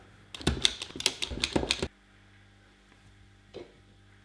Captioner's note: clicking noise